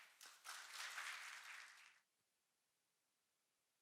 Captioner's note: audience applauding